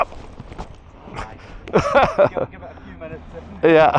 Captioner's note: laughs